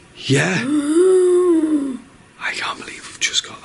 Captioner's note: mimics moan